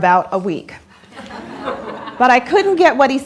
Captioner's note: laughter